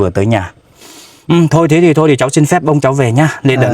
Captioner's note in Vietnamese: khịt mũi